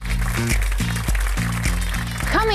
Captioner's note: audience applauding